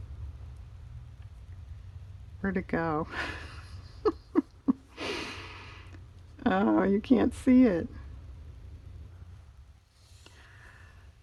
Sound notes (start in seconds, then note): 3.1 laughs